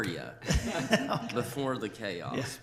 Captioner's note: laughter